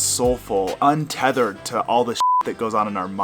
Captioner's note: beep